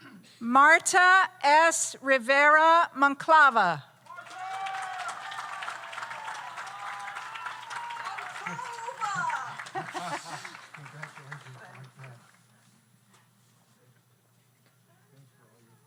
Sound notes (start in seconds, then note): 4.0 audience applauds; 4.1 audience cheers